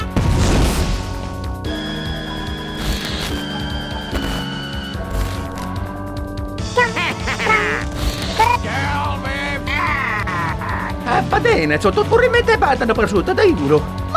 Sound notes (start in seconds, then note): 1.3 scary Music; 2.9 Static